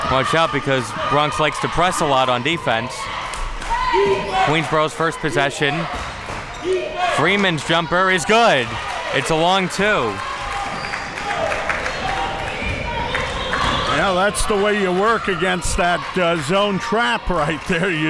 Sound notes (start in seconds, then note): 10.5 crowd cheering